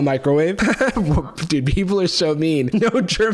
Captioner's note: laughs